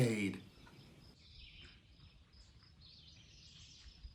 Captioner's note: birds chirping